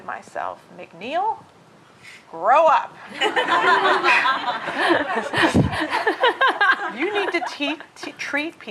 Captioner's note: laughter